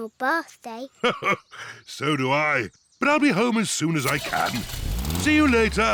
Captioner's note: chuckles